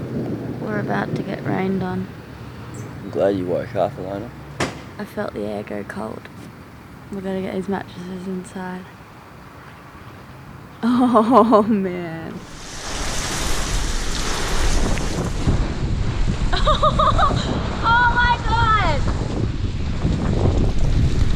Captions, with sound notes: We're about to get rained on I'm glad you woke up Elayna. I felt the air go cold. We're gonna get these mattresses inside Oh Man (laughter) Oh my God!